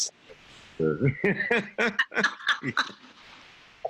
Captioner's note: laughing